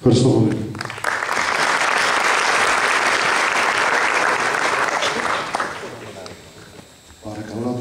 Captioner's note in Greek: Χειροκροτήματα από το ακροατήριο